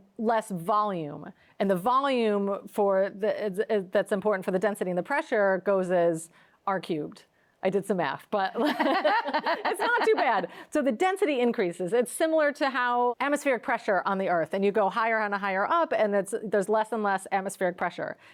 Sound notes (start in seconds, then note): 8.6 both laughing